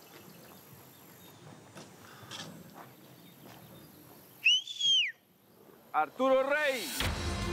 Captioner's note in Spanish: silbido